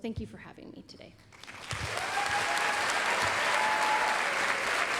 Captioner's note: applause, cheering